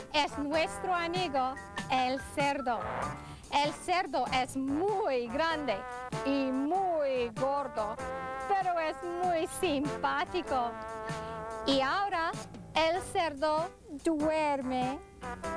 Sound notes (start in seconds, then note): 3.3 foreign Language